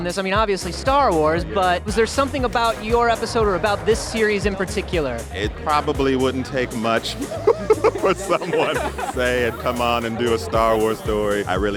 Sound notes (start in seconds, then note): 6.7 chuckling